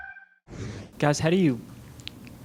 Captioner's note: rooster crowing; whoosh